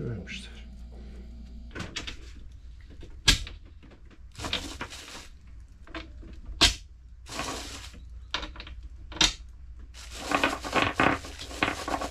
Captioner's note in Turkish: MEtal sesleri